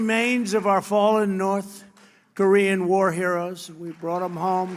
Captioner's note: applause